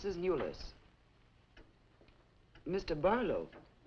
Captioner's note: clock ticking